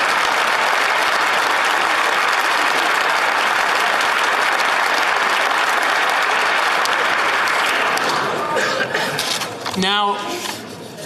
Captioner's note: applause